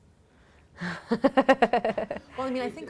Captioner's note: laughing